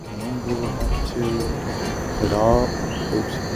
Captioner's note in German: furzt